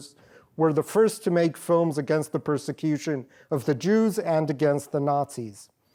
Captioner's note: none